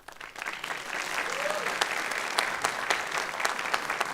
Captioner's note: applause